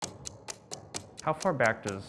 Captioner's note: ticking